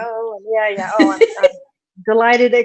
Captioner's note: laughs